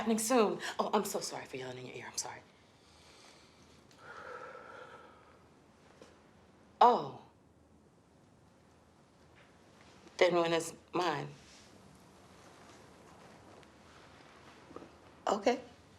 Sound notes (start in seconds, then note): 4.0 Eric breathes deeply